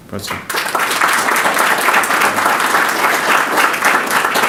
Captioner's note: audience clapping